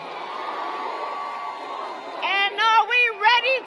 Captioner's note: applause